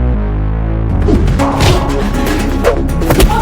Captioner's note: air whooshing; thug exclaims